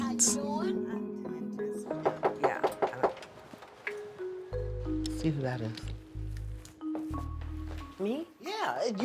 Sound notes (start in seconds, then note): 1.9 knock on door